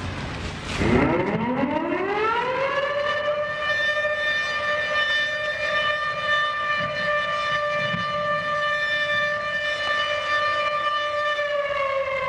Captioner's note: air raid siren